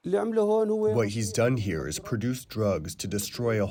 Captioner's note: through translator